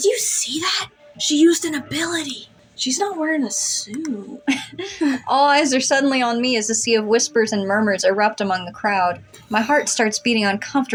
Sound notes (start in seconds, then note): 4.4 both Chuckle